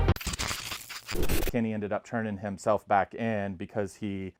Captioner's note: static sound